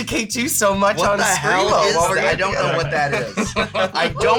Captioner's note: chuckles